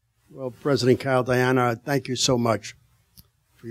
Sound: none

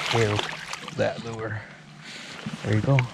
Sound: fish splashing

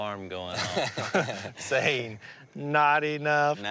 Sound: laughter

